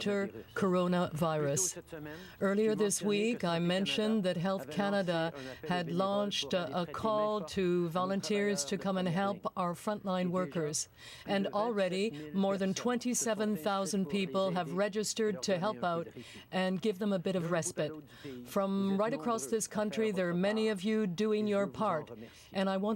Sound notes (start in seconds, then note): 1.1 speaking french